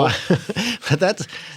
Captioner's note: laughter